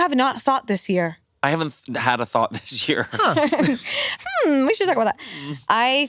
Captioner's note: laughs